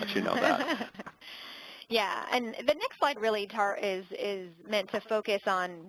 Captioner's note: laugh